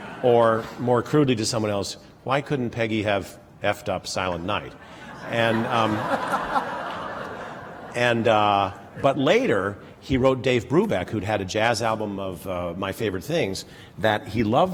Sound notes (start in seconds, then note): 4.8 laughter